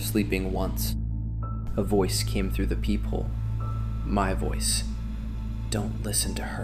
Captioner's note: whispers